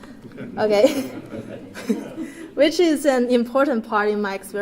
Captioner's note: laugh